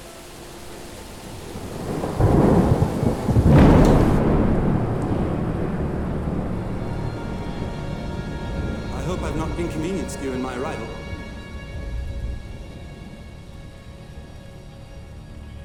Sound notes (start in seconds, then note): 1.7 storm raging; 12.7 dramatic music